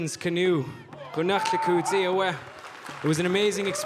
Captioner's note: speaking in Lingít